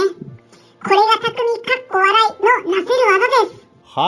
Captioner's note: laughs